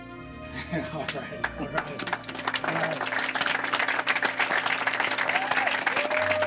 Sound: applause

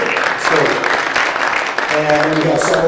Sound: audience clapping

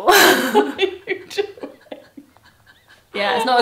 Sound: laughs

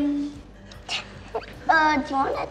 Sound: giggles

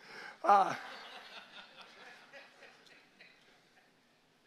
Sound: congregation laughs

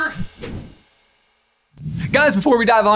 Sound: whoosh

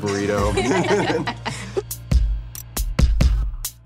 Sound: chuckling; electronic music

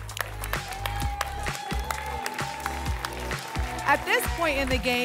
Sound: applause and cheering

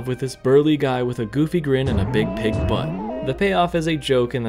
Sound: bouncing sound effect intensifies

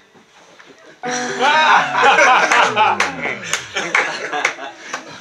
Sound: people laughing

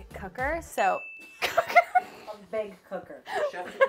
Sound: bell ringing; laughs

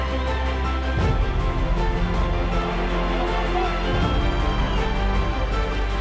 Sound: distant audience cheering

